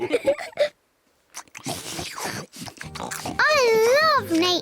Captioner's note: all laugh; all munch